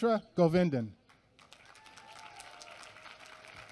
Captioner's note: applause